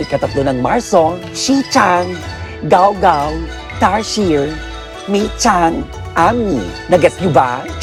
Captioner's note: speaks in Faux Chinese